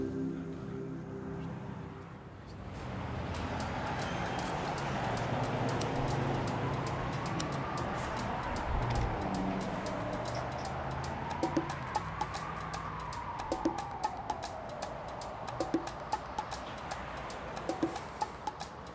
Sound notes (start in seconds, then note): 2.9 traffic humming; 11.5 rhythmic music